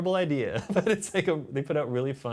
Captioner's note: laughs